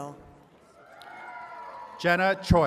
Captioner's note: attendees cheering